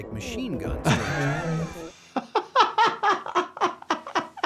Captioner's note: laughing